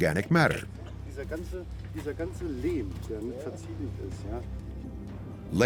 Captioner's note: speaking German